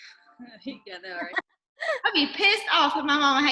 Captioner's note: laughs